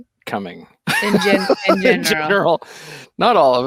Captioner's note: laughing